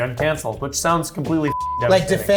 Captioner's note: beep